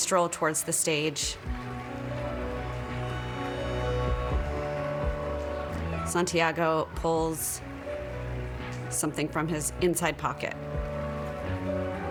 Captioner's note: applause